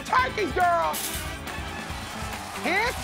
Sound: cheers and applause

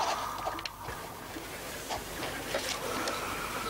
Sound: Gran snoring

